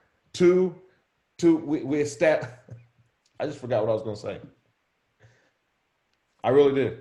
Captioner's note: chuckles